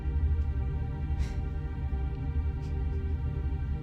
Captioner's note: puffs